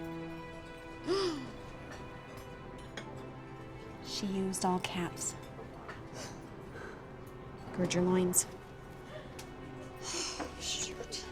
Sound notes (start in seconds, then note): 1.2 gasps; 6.6 breathes deeply